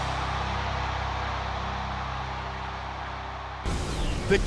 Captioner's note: cheers and applause